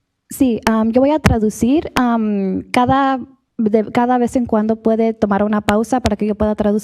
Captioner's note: speaks Spanish